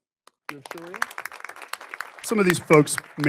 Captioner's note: audience applauding